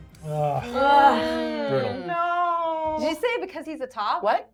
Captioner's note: everyone groaning